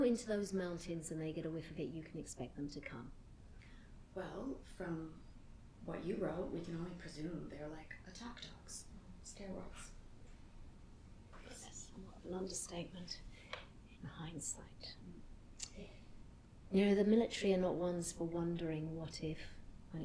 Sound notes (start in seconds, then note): none